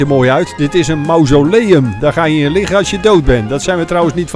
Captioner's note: voiceover